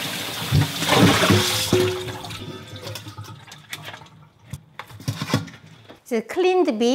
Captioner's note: water sloshing; bowl clanking